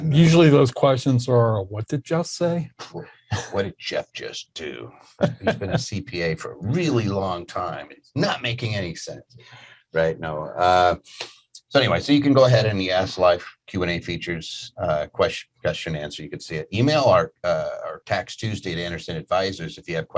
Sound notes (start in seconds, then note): 5.2 laughing